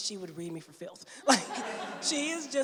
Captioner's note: laughter